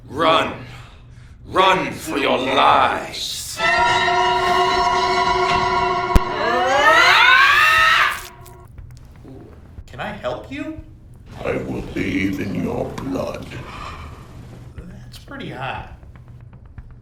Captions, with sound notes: - Run. Run for your lives. (scary music) (Wilhelmina yells) (knife squishes) - Can I help you? - I will bathe in your blood. - That's pretty hot.